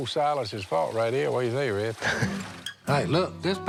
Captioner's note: laughs